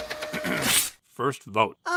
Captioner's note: printer churns; mephone4 clears throat